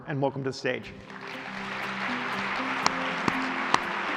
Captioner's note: applause